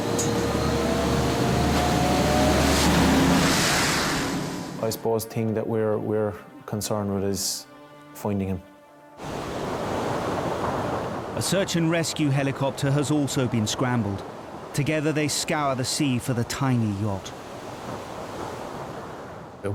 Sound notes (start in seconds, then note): 0.0 wind howling; 9.7 waves roar